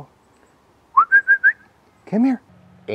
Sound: whistling

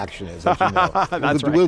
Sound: laughing

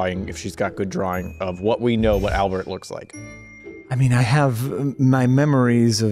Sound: none

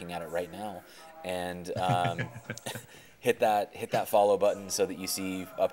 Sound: chuckling

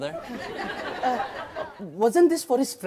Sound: audience laughs

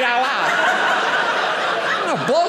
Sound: audience laughing

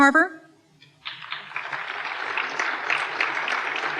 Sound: applause

